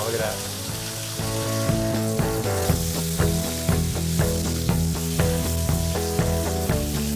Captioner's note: sizzling; upbeat rock music